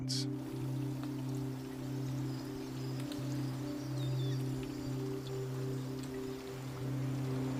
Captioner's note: birds chirping; rain pattering